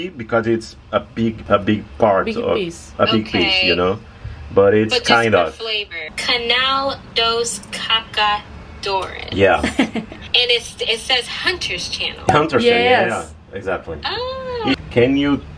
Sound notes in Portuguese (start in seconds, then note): 12.4 conversa em inglês